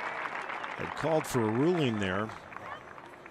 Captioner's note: applause